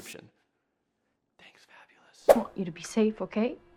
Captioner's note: air whooshing